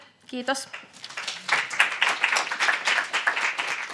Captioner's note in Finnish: Yleisö antaa aplodit